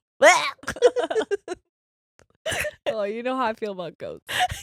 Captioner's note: laughing